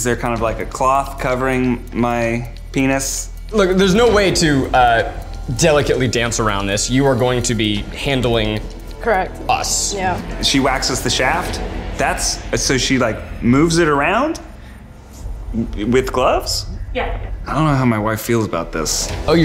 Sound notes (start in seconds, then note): none